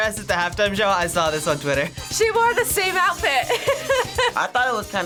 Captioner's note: laughs